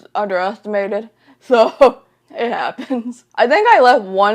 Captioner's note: laughs